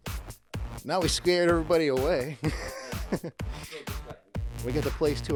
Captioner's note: laughs